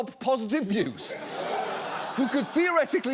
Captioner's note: audience laughs